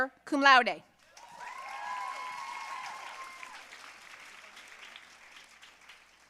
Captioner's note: audience cheering and applauding